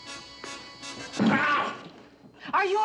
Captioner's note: grunting